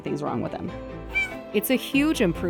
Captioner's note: meow